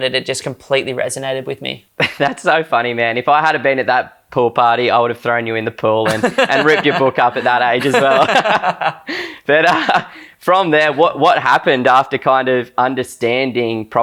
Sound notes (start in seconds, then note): 6.0 laughs; 8.4 both laughing